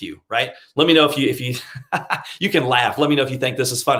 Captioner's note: laughs